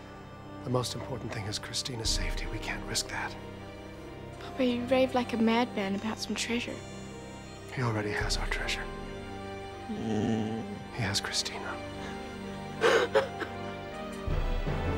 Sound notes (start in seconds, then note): 12.8 crying